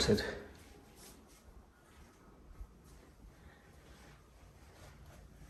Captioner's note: footsteps rustling